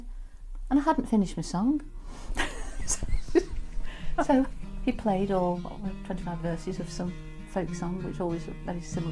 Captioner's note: laughs